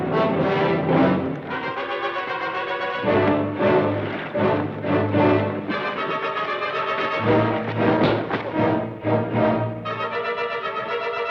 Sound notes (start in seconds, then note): 7.9 thud